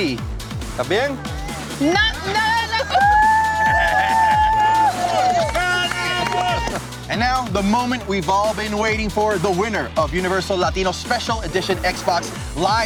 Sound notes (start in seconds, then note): 0.2 techno music; 3.2 screams with excitement